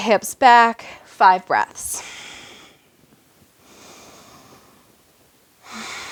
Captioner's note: breaths heavily